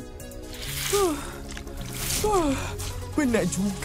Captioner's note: Amato panting